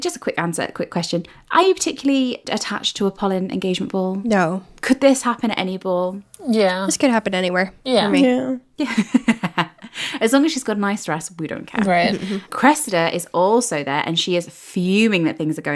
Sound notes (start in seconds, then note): 10.1 laughing